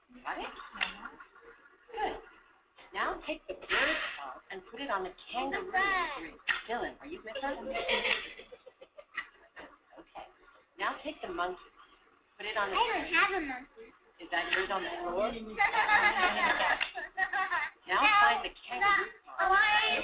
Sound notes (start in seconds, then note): 15.6 laughter